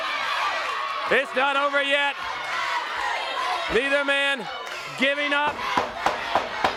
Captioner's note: crowd cheering